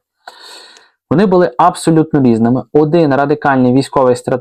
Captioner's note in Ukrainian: сопіння